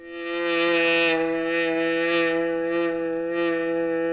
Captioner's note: buzzing